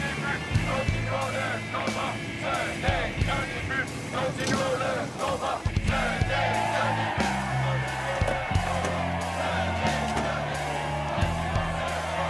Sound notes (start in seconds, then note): 7.2 people cheering